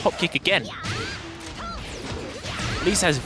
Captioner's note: game sounds